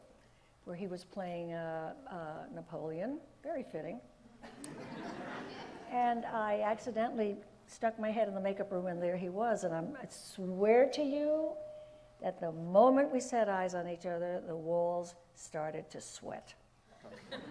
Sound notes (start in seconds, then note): 4.5 audience laughs; 17.1 audience laughs